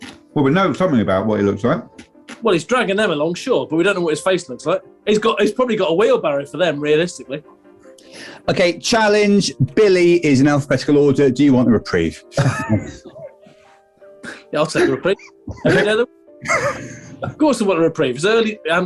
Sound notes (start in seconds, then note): 14.2 sniggering; 14.7 giggling; 16.3 sniggering